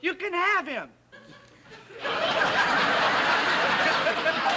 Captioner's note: audience laughing